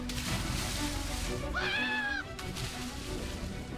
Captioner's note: screams